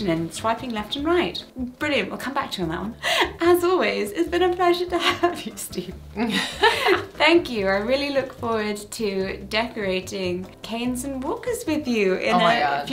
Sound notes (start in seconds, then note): 6.2 laughs